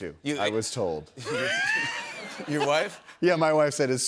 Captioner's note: laughs